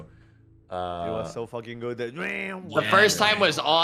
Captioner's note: loop noise